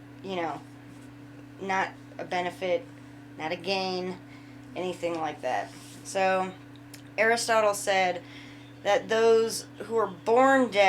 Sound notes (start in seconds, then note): none